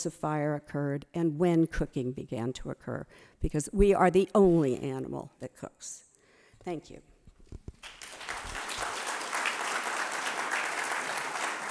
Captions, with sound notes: of fire occurred, and when cooking began to occur. Because we are the only animal that cooks. Thank you. (audience clapping)